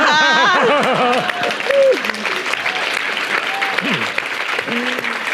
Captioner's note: Nadine laughing; everyone laughing; audience applauding